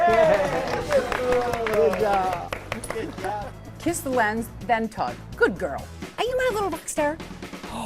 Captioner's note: applause